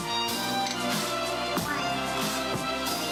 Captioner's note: board clicks